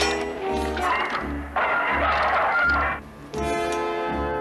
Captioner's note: grinding